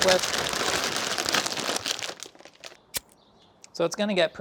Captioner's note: bag crinkles; lighter clicks